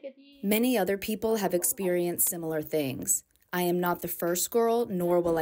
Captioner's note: through translator